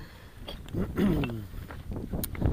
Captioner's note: ahem